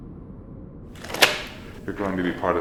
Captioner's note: gloves snapping